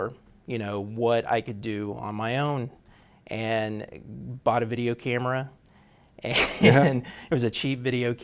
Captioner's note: laughs